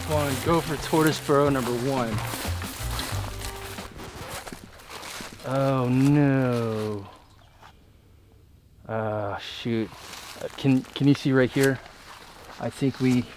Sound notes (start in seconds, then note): 4.1 record scratches